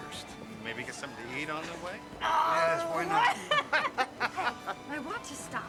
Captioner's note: laughing